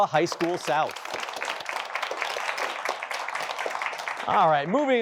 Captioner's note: applause